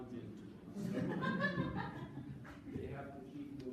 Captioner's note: audience laughing